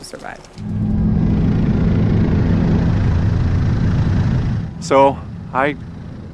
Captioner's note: airplane engine roaring